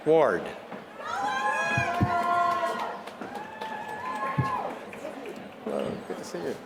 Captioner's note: applause